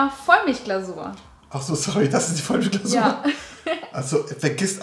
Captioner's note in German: lacht